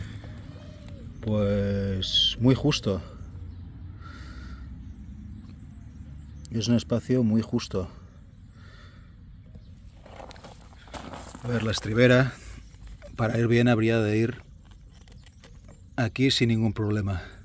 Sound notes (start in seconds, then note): 4.0 gasp; 4.6 sigh